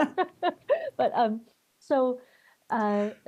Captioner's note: laughter